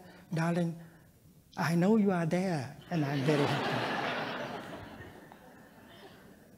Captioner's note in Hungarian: nevetés